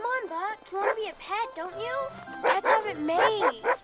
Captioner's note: barking